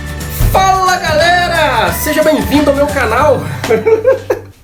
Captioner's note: laughs